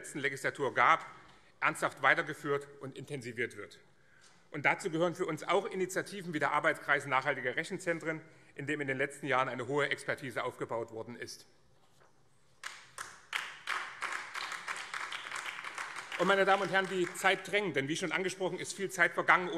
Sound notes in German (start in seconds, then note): 11.0 Beifall BÜNDNIS 90/DIE GRÜNEN